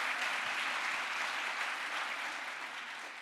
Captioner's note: crowd applause